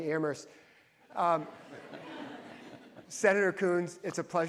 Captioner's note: audience laughs